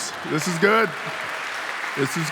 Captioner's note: audience applauding